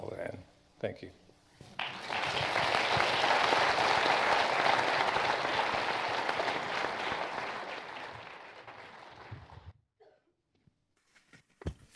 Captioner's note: applause